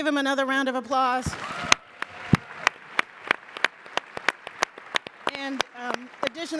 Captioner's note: audience claps and cheers